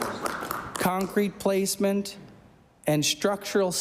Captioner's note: applause